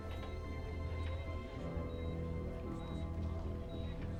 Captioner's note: monitor beeping